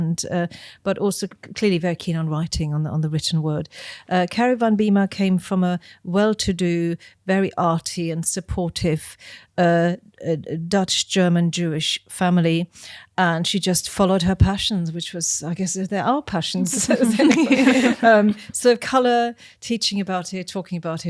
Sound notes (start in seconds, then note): 16.6 group laughing